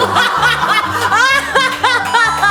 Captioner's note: chuckles